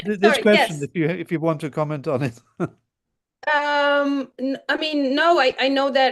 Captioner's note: chuckles